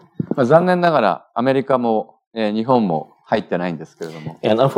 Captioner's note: speaking japanese